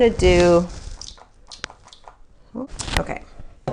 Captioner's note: product squirts